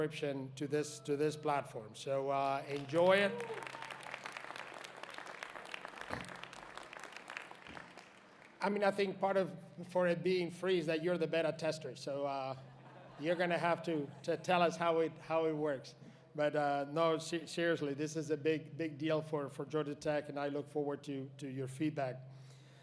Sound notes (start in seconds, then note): 8.9 applause